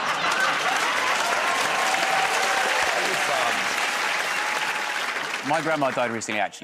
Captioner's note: laughter; cheers and applause